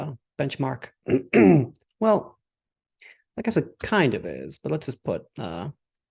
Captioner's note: throat clears